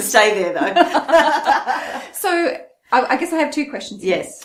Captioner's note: both laughing